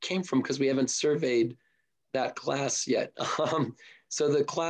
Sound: chuckles

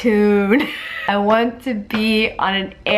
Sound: laughs

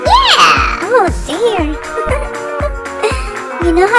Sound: giggles

